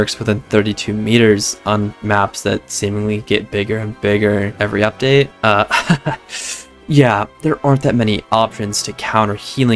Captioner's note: sigh